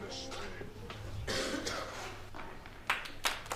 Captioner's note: audience member coughs